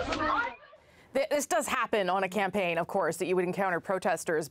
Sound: yelling

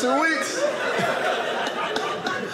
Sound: audience laughing

